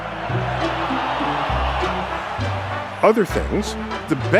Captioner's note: crowd cheering